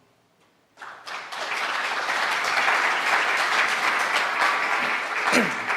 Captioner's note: audience applauding